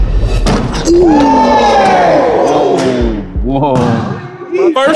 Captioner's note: all exclaiming